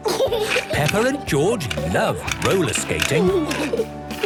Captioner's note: snorting and giggling; laughter